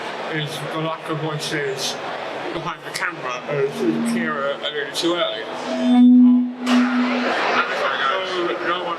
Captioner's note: feedback